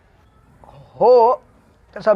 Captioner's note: stammers